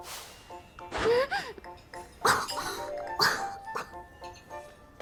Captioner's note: cough cough